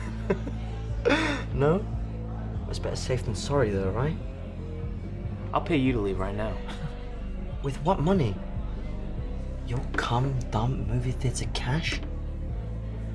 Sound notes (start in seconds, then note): 0.0 laughs; 6.6 chuckles